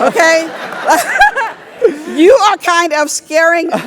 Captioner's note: laugh